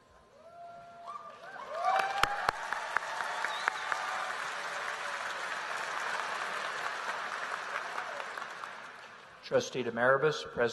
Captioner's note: applause